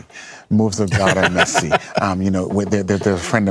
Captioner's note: laughter